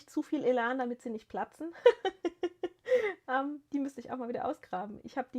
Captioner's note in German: gelächter